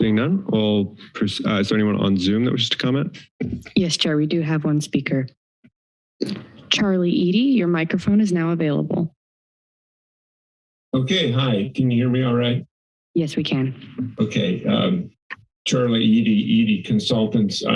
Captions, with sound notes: Seeing none, well, is there anyone on Zoom that wish to comment? - Yes, chair. We do have one speaker [mouse click sound]. Charlie Eadie, your microphone is now available. [silence] - Okay. Hi, can you hear me alright? - Yes, we can. - Okay. I'm Charlie Eadie, Eadie Consultants.